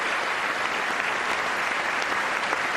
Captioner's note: applause